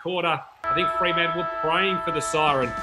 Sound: siren

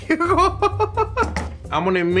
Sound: laughing

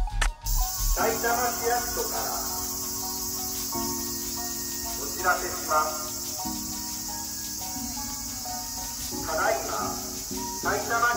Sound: public tannoy

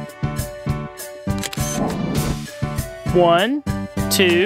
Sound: SFX: Camera Shutter

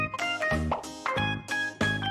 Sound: unnecessary sound effects

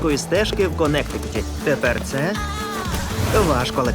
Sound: woman groans

